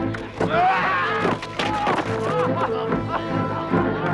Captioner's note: guard screams